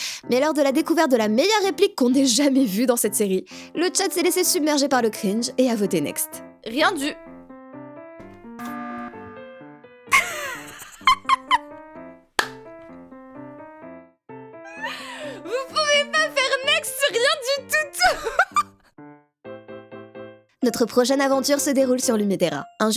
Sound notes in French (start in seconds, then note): 8.6 bruit de buzzer du next; 10.2 rires